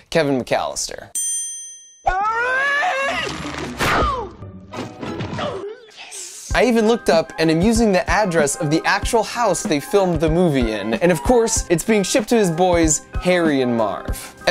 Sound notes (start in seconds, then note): 2.1 screams